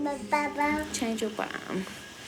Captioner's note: gurgles